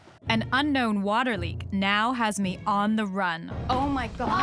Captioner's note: none